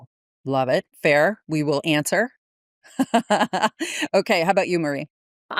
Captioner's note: laughs